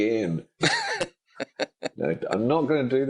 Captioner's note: laughing